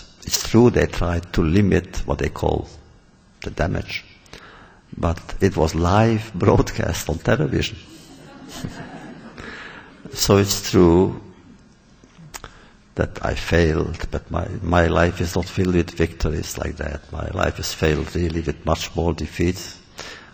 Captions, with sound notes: -- it’s true they tried to limit what they called the damage. But it was live broadcast (laughs) on television. (laughter) So it’s true that I failed, that my life is not filled with victories like that. My life is filled, really, with much more defeats.